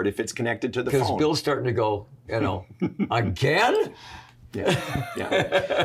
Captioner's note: laughs